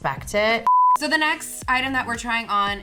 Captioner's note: beep